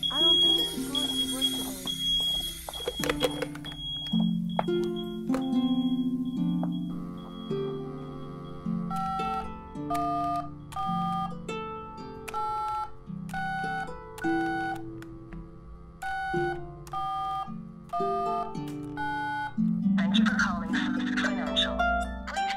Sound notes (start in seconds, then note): 6.5 dial tone; 9.0 phone beeping